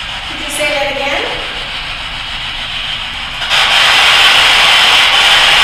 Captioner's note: static buzzing